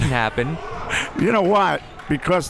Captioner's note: laughs